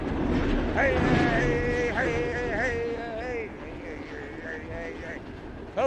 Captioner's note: train rumbles, vocalises